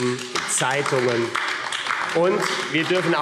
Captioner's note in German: Beifall AfD – Zurufe SPD und DIE LINKE